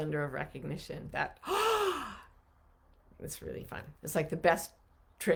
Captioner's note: sighs